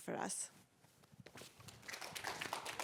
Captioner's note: applause